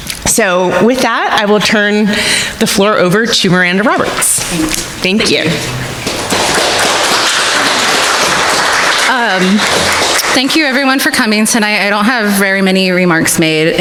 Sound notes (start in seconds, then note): 5.6 audience applauding